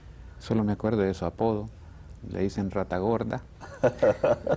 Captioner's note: ríe